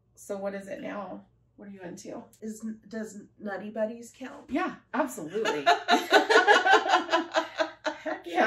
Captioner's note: laughter